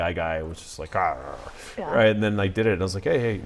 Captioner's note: growl